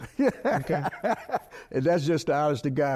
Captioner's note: laughing